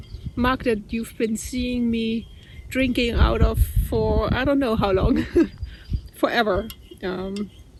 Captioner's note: laughs